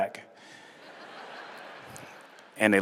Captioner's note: laughter